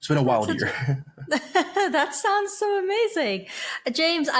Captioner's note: chuckling